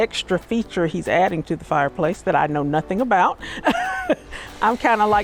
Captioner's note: laughs